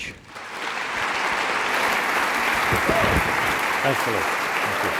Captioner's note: applause